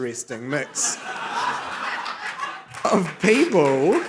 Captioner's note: laughter